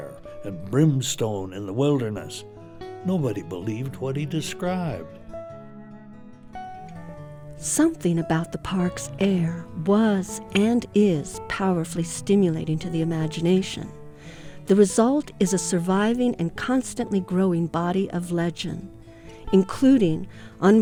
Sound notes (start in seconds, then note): 9.0 voiceover